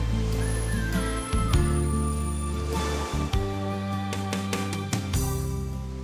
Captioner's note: Sound of waves fades away